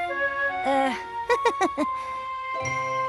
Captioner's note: chuckles nervously